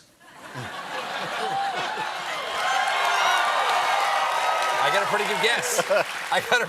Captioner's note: laughter; cheers and applause